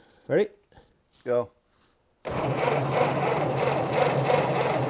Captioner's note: egine sputters